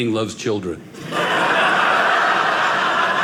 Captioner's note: audience laughing